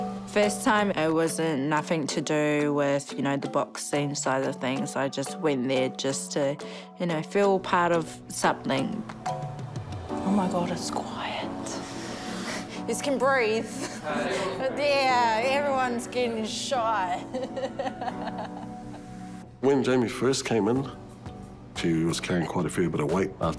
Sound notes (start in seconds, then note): 17.2 chuckles